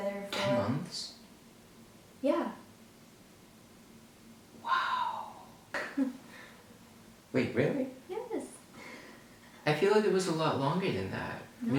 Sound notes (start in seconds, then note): 6.1 laughs